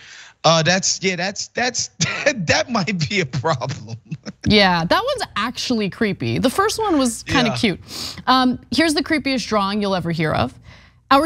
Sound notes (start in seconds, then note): 2.0 laugh